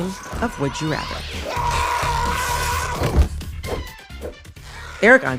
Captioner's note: soundbite of person screaming